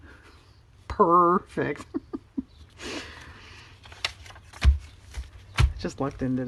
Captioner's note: laughs